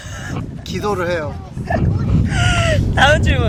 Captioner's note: laughing